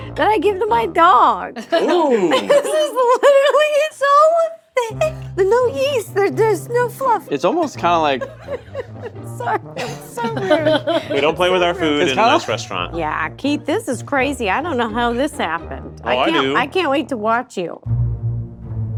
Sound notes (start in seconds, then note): 1.5 all laughing; 1.6 laughing; 5.9 goofy music continues; 7.5 laughing; 17.8 suspenseful music